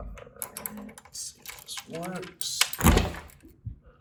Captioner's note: keys rattling; door pops open